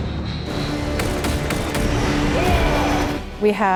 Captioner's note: gun fires